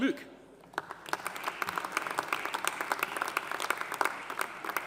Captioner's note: audience applauding